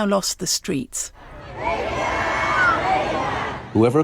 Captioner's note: crowd cheering